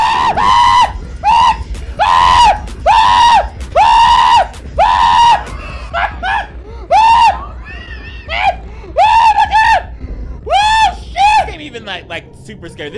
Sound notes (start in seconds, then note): 0.0 screams; 4.7 screams; 5.4 laughs; 6.8 screams